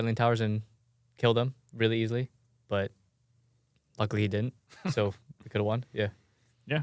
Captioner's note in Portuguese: risos